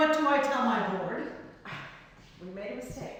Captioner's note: sighs